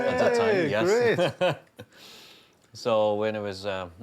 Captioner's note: laughs